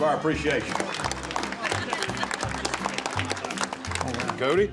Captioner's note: applause